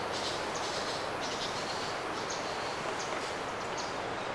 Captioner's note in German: Meerrauschen und Vogelgezwischer